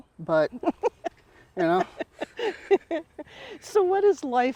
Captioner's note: laughs